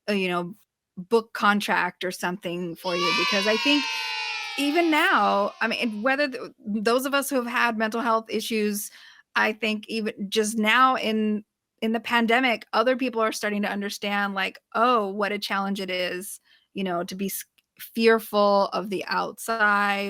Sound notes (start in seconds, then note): 2.8 children saying “yay” sound